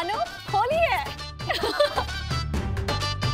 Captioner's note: laughing